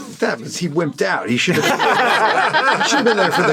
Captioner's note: laughing